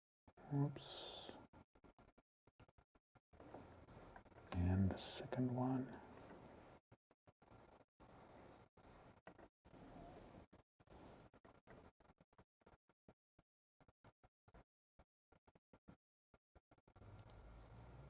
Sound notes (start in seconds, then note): 7.3 silence